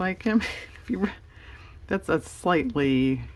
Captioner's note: laughs